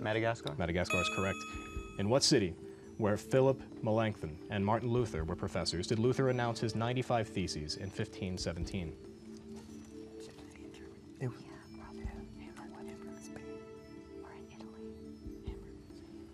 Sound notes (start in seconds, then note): 9.4 whispering